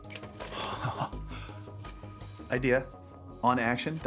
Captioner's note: laughs